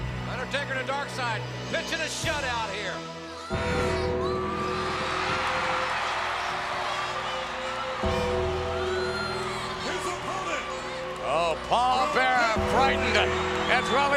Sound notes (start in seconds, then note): 3.7 ominous music; 4.9 audience cheering